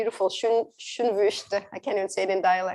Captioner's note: non-english speech